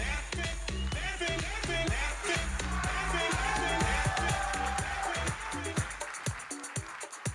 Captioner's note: audience cheering and applauding; disco music